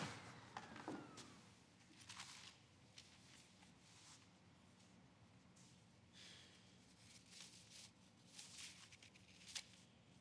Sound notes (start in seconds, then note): 2.0 paper rustles